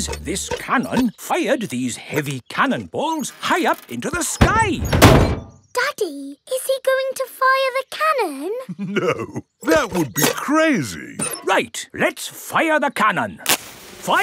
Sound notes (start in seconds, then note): 8.6 chuckling